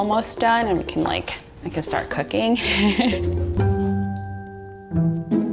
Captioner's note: laughs